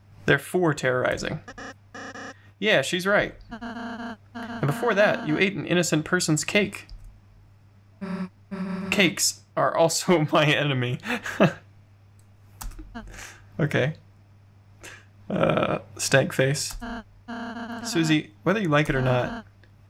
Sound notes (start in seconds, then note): 11.0 laugh